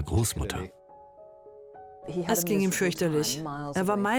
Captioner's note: voiceover